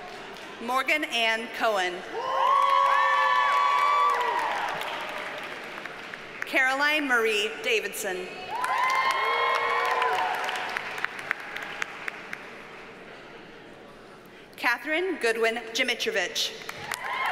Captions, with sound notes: Morgan Ann Cohen. (audience cheers and applauds) Caroline Marie Davidsen. (audience cheers and applauds) Katherine Goodwin Dzimitrowicz.